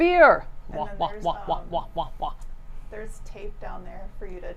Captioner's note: muttering